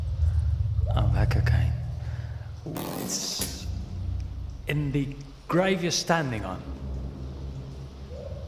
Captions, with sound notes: Oh, that cocaine. [rope snaps] Well, its... ...in the grave you're standing on.